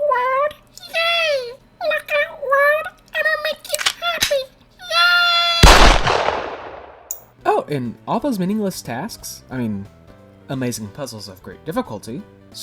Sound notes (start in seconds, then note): 5.6 gunshot